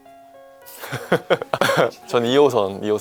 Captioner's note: laughter